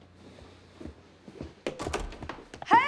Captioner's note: door closes